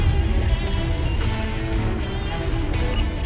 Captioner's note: computer beeping rapidly